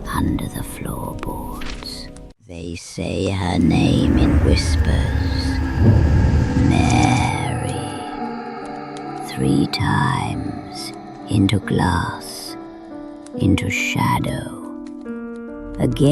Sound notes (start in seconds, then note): 2.4 sound: Candle crackle, slow whispering tone